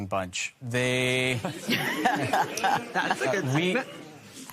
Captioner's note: laughter